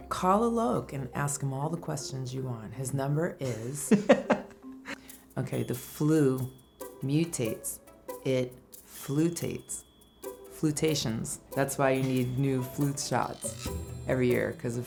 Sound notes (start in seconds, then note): 3.8 laughs